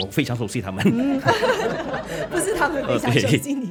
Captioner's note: laughs